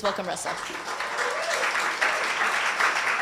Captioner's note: applause